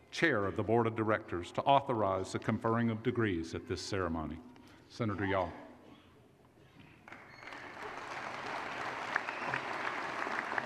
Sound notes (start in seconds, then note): 7.1 applause